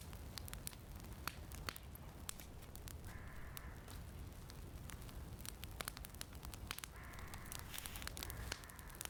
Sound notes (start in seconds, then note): 4.0 fire crackling